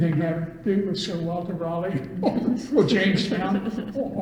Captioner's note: all laugh